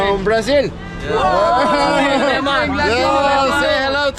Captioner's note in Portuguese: falatório